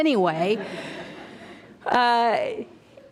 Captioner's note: audience laughter